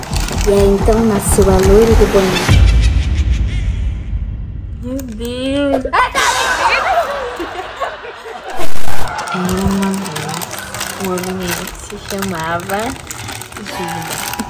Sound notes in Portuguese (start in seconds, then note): 2.8 risada malvada; 5.8 risadas; 6.9 som de pratos de bateria